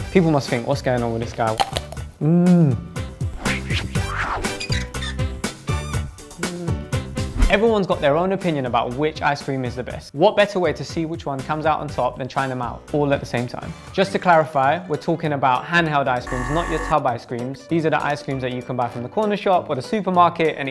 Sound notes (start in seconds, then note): 1.6 ice cream crunches; 3.4 fun music